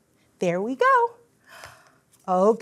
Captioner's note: gasps